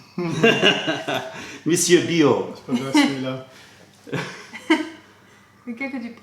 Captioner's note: french; french